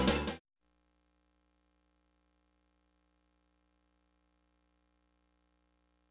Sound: silence

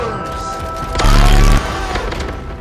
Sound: MLG noises

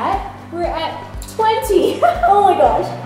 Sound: giggling

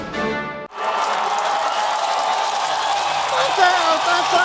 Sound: applause

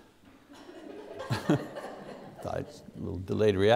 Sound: audience laughter

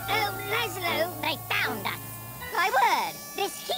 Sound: helium voice

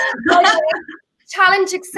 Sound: laughs

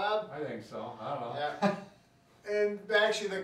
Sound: laughs

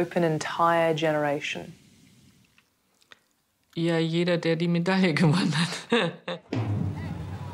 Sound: laughing

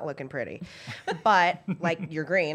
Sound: laughter

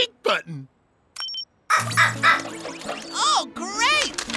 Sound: barking

